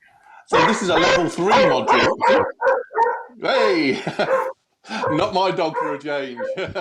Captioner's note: barking